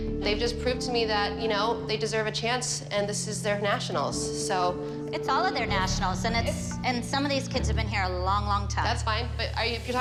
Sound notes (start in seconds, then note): none